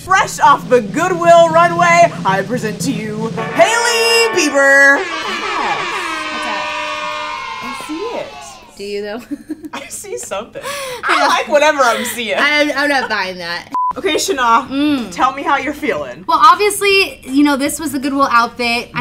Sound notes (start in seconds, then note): 4.9 cheering